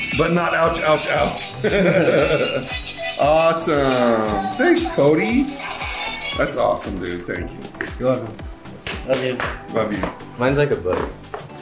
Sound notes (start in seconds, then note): 1.3 laughing